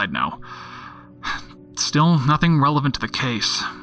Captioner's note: sigh